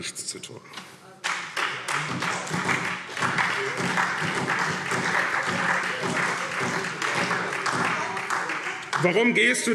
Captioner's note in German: Beifall